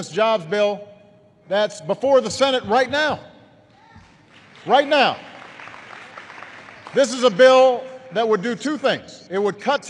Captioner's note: applause